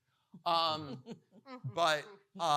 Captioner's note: laughing